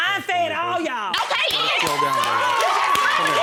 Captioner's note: audience cheering